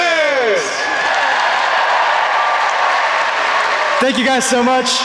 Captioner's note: audience cheers